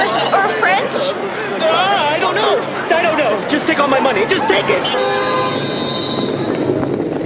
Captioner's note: whistles blowing, crowd dispersing